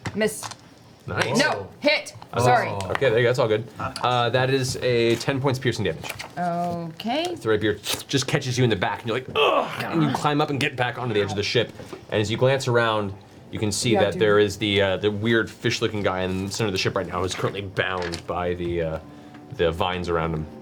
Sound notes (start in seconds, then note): 9.3 groans